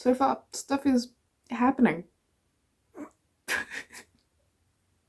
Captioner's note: laughing